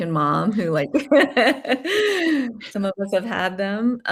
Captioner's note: laughing